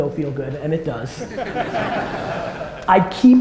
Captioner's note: audience laughter